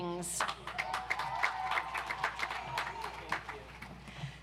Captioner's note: audience applauds